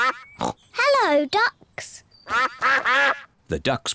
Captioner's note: snorts; ducks quack